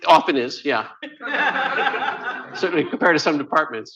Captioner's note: laughter